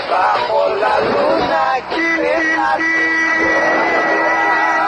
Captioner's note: honks horn